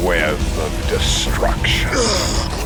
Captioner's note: groaning